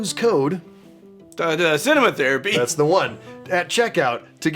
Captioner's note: stammers